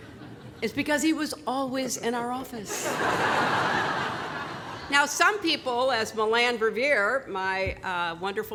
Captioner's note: laughter